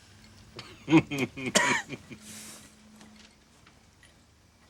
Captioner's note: laughs